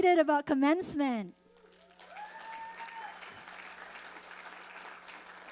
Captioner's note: audience cheering